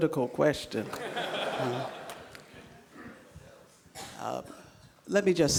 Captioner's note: laughter